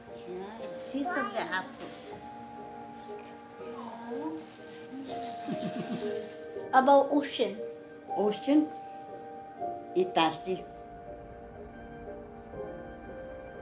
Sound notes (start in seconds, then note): 5.0 grandma giggles